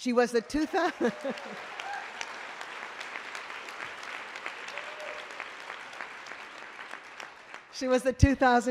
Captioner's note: applause